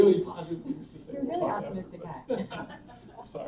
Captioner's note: laughter